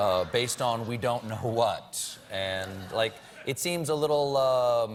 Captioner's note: laughter